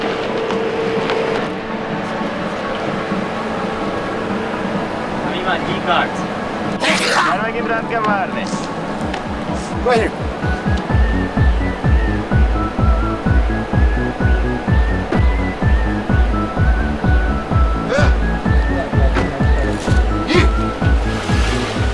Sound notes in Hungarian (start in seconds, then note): 6.8 sneezes